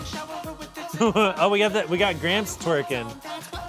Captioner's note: laughing